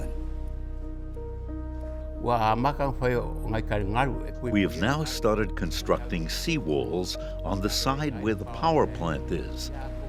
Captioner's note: foreign language